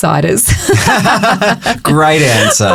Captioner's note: both laughing